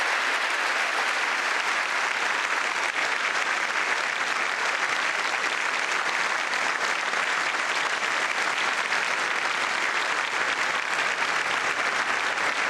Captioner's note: applause